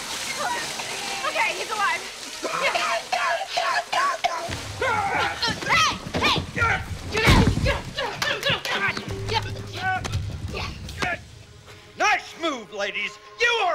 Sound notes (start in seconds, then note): 0.1 <i> gasping, coughing</i>; 4.0 <i> stan coughing</i>; 11.0 <i> grunting</i>